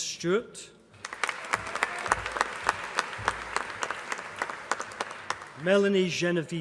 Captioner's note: applause